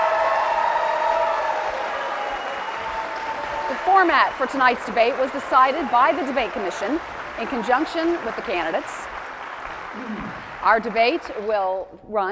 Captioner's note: cheers and applause